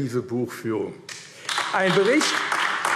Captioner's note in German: Beifall AfD